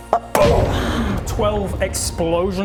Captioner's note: boom!